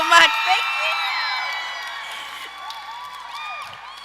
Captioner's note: audience cheers